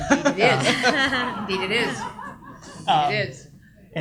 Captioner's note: audience laughs